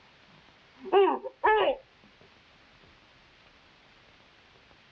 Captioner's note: Manuel yelping